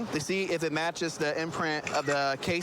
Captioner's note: camera app clicks